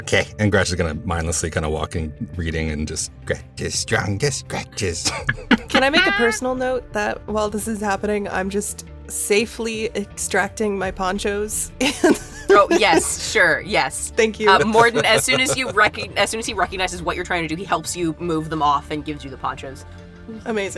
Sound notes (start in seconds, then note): 5.6 chants; 11.8 chuckles